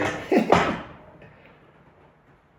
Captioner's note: laughs